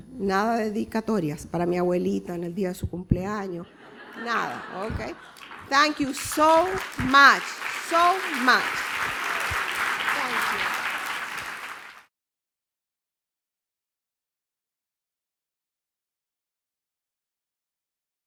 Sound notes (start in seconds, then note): 9.0 appluase